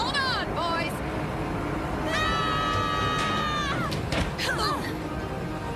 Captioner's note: all yelling